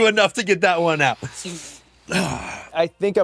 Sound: sighs

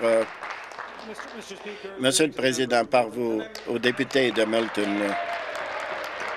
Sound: applause

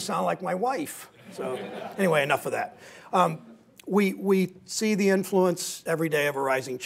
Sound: laughter

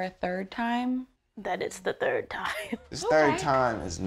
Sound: laughs

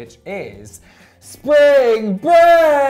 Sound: shouts

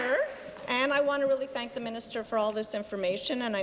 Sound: applause

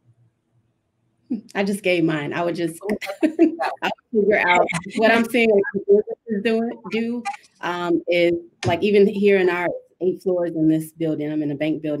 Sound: laughs

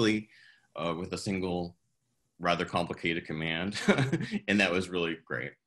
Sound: chuckles

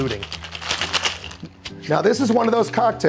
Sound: ice clinking

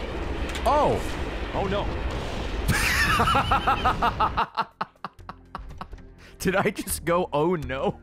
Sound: laughs

